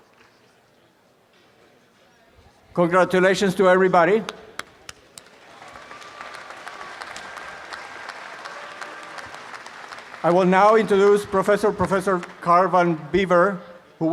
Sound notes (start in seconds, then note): 4.6 applause